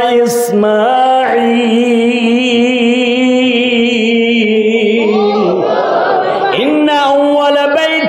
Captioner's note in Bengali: সশব্দ হাসি